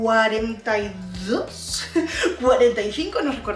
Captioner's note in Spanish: risas